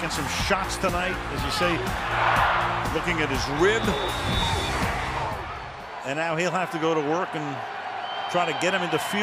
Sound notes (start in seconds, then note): 3.4 whistles